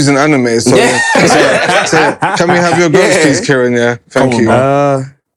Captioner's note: laughter